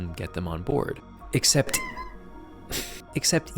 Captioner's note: Yuzu Noises